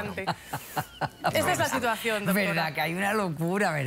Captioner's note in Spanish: risas